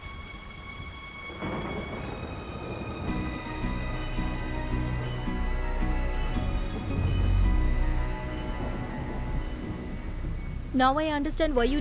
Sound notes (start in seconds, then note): 1.3 thunder rumbling